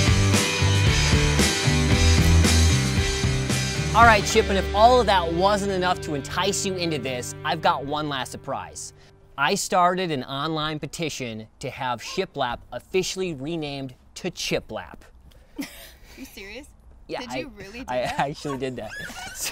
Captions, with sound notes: All right, Chip, and if all of that wasn't enough to entice you into this, I've got one last surprise. I started an online petition to have shiplap officially renamed to Chiplap. (laughs) - You serious? - Yeah. - Did you really do that? - Yeah, I actually did that.